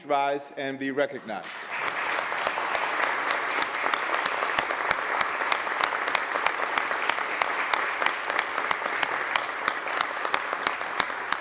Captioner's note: applause